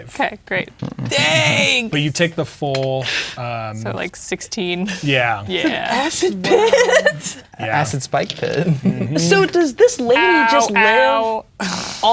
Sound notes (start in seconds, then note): 6.7 laughing